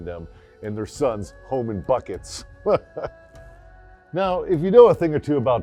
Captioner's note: laughs